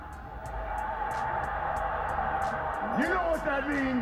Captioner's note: crowd cheering